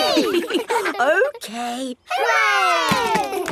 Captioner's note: chuckles